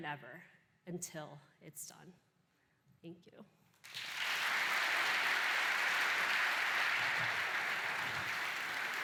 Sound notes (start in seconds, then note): 3.8 applause